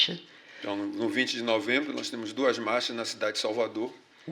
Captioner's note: speaking portuguese